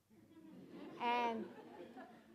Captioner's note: audience laughing